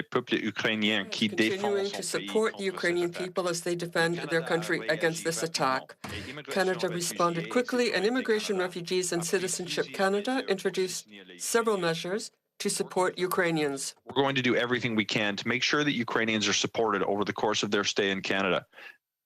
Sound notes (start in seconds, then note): 5.7 speaking French